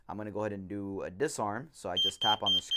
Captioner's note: beeping